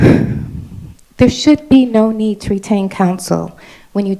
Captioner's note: sighs